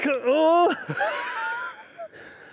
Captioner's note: laughs